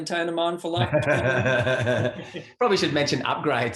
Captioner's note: laughing